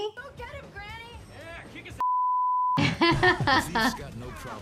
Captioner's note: beep; laughs